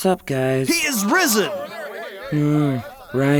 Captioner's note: disciples chattering